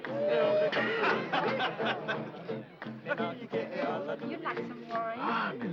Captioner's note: Culley laughing